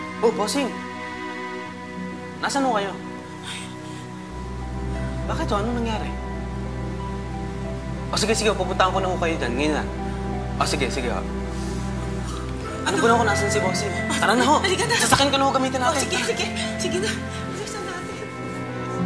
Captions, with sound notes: Hey, Boss! -Where are you? -[gasps] Why? What's the matter? Oh, okay, okay. I'm going to go there right now. Oh, okay, okay. -What is it? -I know where the boss is. -Let’s go! -Come on. -Let’s use my car. Let's go. -Alright, alright. Okay. Let’s hurry!